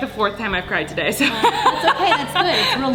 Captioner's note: laughing